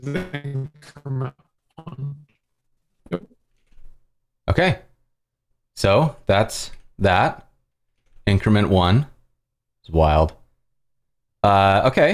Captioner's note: laughs